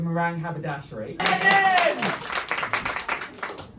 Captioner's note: applause